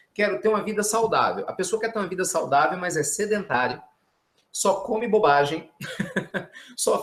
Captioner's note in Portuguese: risos